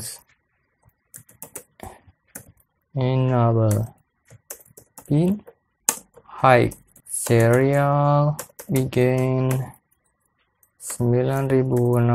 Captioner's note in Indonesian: typing code